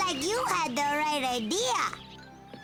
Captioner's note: squealing; laughs